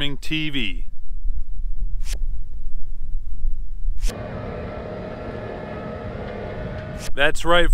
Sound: tractor sounds

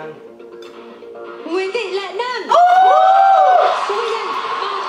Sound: screaming

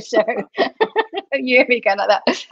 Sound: laughter

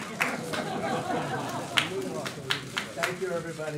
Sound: laughter

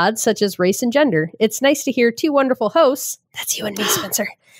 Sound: whispering

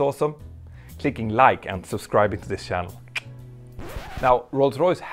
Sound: clicks tongue

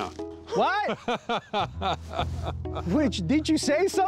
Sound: laughs

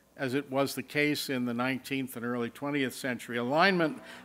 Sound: none

